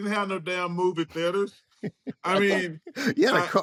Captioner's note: chuckles